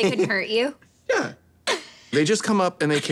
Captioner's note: laughing